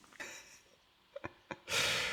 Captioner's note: laughter